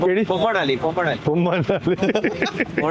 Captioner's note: laughing